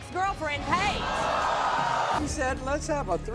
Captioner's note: audience gasping